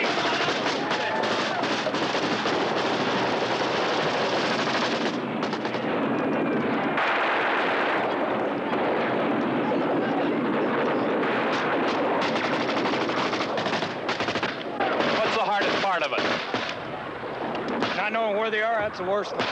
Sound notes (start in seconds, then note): 5.6 grenade shrieking; 11.2 rapid gunfire ensues